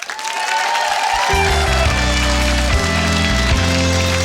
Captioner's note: audience applauding